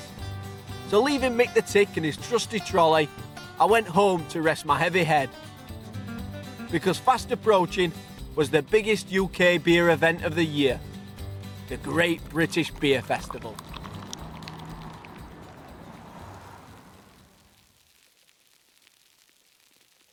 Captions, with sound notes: After leaving Mick the Tick and his trusty trolley I went home to rest my heavy head because fast approaching was the biggest UK beer event of the year. The Great British Beer Festival. (liquid bubbling)